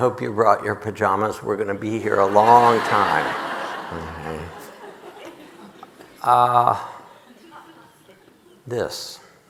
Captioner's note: audience laughing